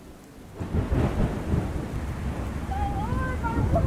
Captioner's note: thunder rumbling